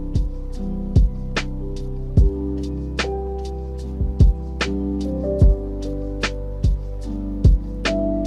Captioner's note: none